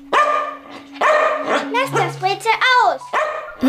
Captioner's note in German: Hund bellt